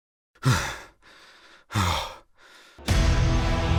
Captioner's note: laboured Breathing